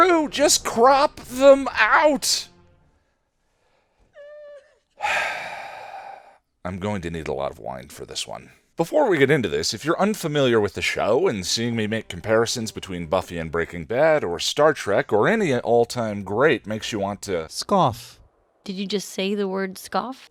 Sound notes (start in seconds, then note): 4.1 Buffy crying; 4.9 sigh